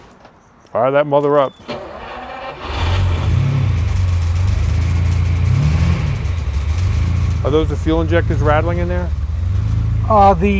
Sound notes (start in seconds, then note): 2.3 car revving